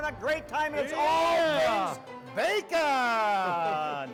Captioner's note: laughs